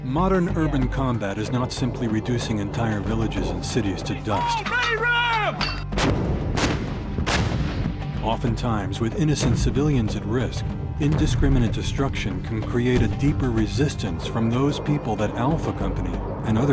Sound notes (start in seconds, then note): 0.0 marine on radio; 0.4 voiceover; 5.9 artillery fire